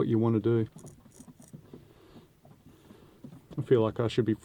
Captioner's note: scraping sound